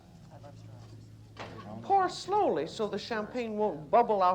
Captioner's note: chatter